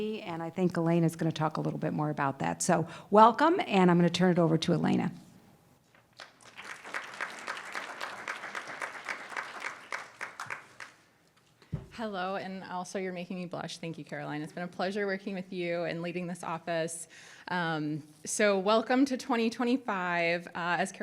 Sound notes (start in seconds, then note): 6.1 audience applauding